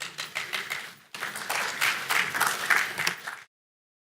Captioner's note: applause